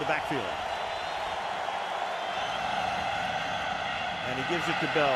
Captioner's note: cheering